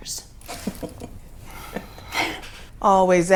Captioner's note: Wanda chuckles